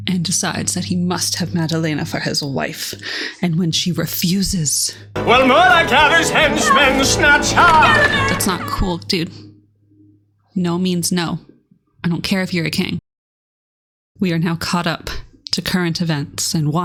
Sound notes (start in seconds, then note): 6.4 Madalena, distant screaming